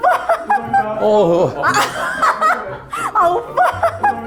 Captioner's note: busting into laughter